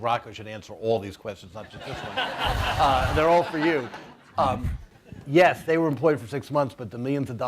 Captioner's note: laughter